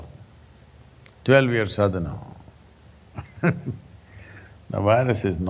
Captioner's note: laughs